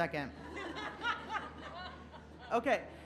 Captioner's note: laughing